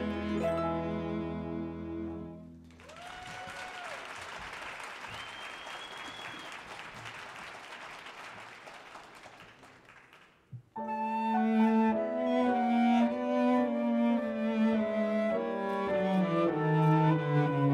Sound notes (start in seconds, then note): 2.6 audience cheers and applauds; 10.7 wistful music